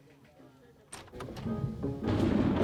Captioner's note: thunder